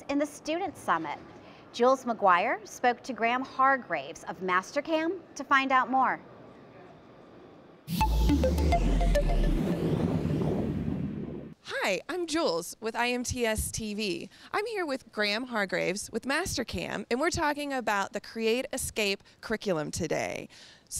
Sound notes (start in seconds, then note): 7.9 robotic beeping; 10.6 wind gusting